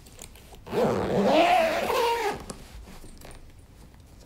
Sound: zipper zips

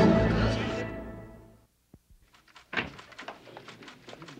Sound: door clunking

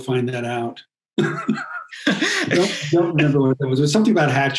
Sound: laughs

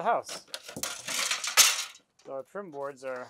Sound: flashing clangs

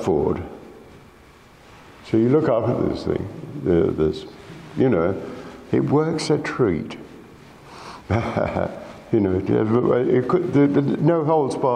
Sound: laughs

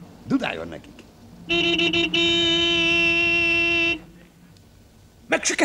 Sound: horn blares

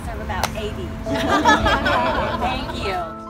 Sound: laughter

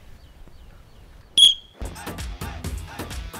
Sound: whistle

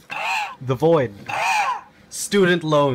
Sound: robot screams

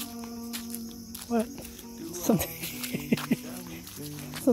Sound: laugh

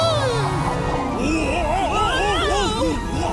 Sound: screaming

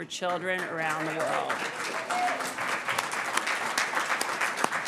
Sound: audience applauding

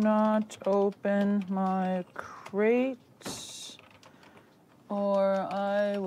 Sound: keyboard keys clacking

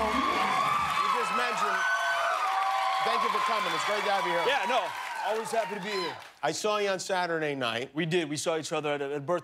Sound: cheers and applause

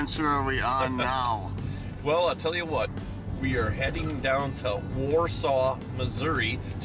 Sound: laughing

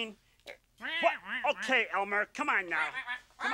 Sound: Eugene exclaiming; Elmer exclaiming

